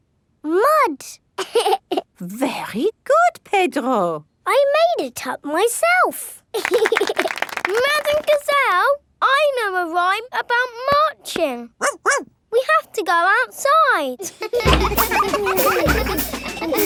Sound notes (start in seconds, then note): 1.3 laughs; 6.5 laughing and clapping; 11.8 barks; 14.2 children laughing